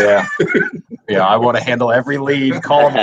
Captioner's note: laughs